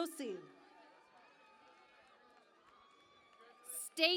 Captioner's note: cheering and Applause